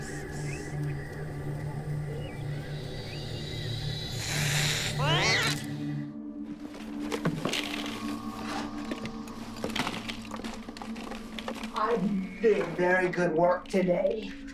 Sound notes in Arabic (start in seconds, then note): 4.0 هسهسة، مواء